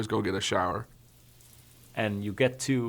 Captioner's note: water trickling